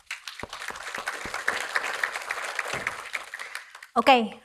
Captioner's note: audience applauding